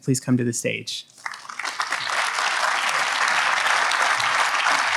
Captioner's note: audience applauds